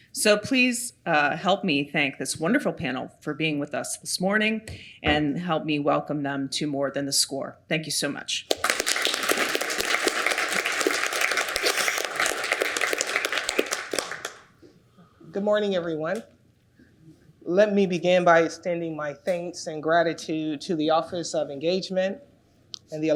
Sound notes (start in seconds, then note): 8.5 audience applauding